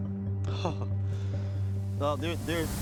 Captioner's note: laughing